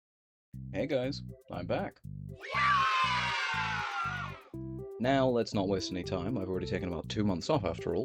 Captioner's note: FNAF cheer